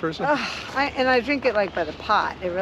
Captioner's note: Nicole groans